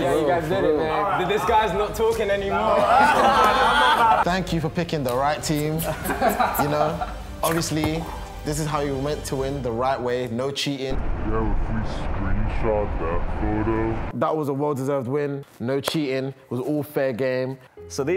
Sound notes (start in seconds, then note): 2.7 laughing